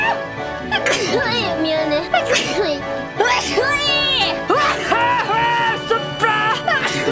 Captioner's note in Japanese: くしゃみ; くしゃみ; くしゃみ